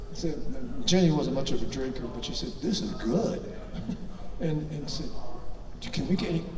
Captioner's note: chuckles